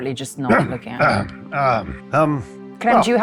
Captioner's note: clears throat